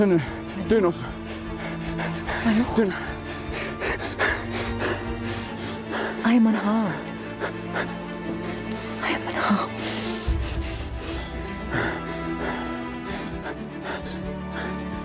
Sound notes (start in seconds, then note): 1.0 Anthony panting; 4.1 Anthony panting more; 11.3 Anthony breathes slowly